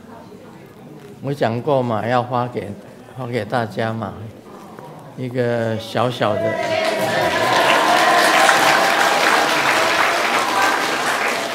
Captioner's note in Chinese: 眾鼓掌